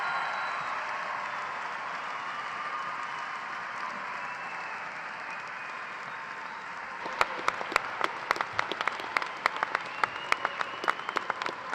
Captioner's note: cheers and applause